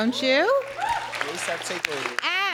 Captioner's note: audience applause